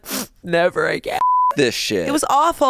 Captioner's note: beep